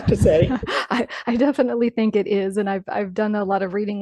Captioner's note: laughing